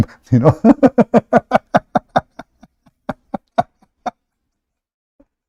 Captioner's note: Ketawa